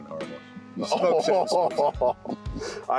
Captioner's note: laughs